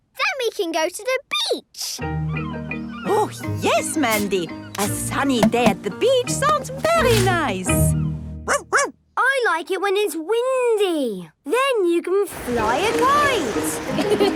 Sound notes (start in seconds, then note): 8.4 barking; 13.8 laughing